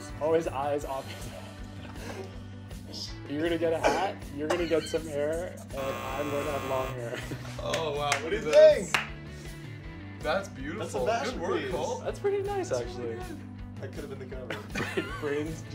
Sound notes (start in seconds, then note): 5.7 buzzer blaring; 7.6 clapping